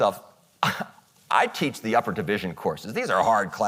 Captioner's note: scoffs